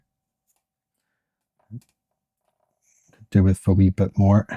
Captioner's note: silence